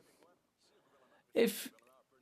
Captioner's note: speaking French